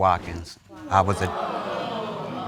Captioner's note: audience exclaims